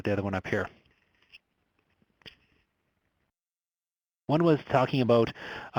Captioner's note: pause